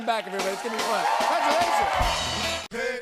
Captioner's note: cheers and applause